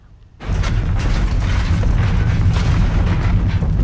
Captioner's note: furnace rumbling